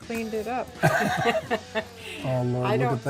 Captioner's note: laughing